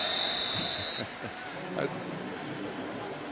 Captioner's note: whistle; pa announcement